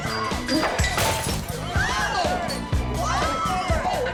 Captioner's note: screaming